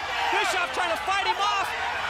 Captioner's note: crowd cheering